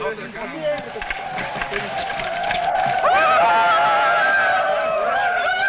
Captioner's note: men shouting; tribal war shouting